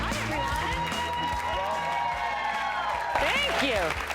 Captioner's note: cheering